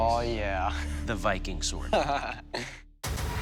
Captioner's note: laughs